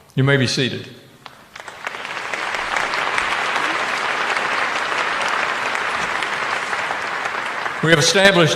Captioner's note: applause